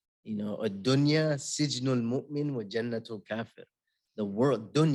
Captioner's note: non-english speech